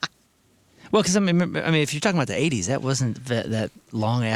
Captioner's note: none